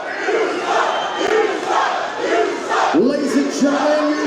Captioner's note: crowd chanting